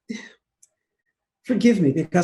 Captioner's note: exhales